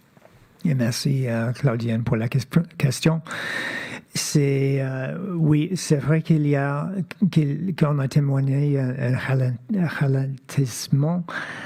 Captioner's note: speaking French